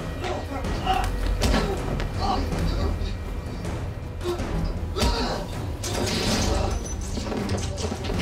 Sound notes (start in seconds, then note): 4.9 grunting